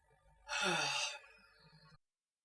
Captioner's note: sighs